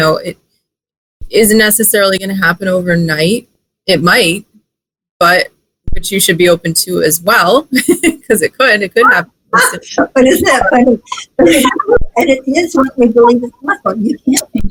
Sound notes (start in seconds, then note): 7.9 laughs